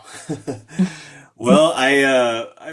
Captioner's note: chuckling